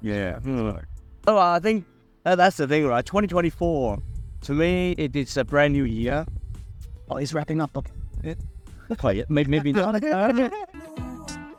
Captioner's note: haha